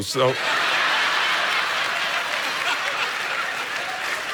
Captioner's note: congregation laughing